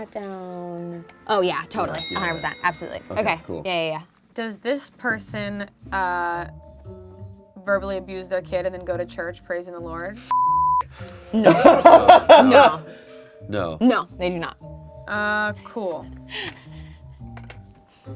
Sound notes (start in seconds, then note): 1.8 bell clicking sound; 10.3 beep